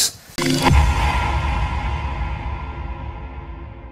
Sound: electronic sounds

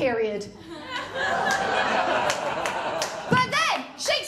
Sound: laughter

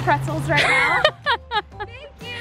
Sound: laughing

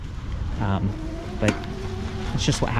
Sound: bicycle roaring

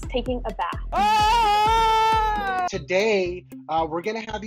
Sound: screams

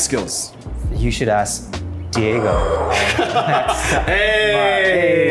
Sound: both laughing

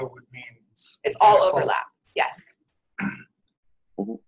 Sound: voiceover

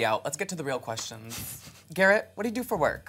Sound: sniggers

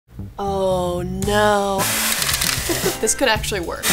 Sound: hair dryer blowing

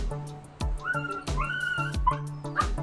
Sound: puppies squealing

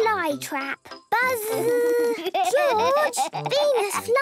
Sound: George laughing

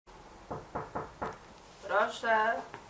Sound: knocking on the door

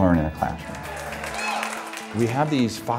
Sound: applause

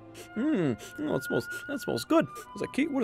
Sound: wolf sniffs

